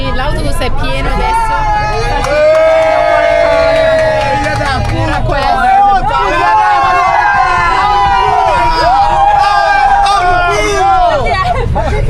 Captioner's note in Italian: urlo